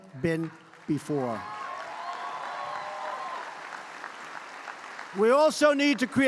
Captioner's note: applause